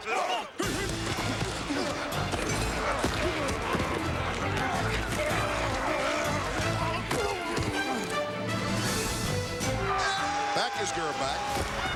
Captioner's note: grunting